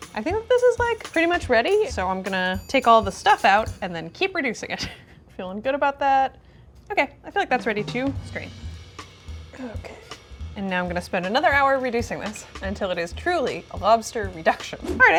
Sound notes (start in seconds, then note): 4.9 chuckles